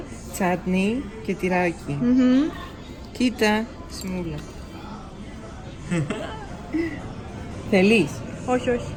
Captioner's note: giggles